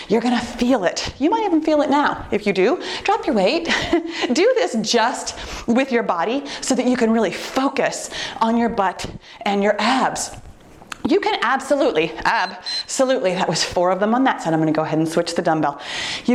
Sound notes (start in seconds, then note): 12.3 timer beeps